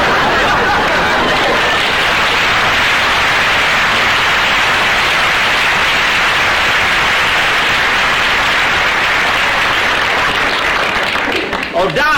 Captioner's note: audience laughter; audience applause